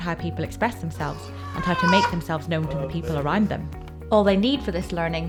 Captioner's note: cries